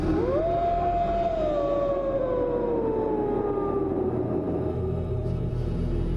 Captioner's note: wolf Howling